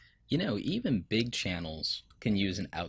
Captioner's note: voiceover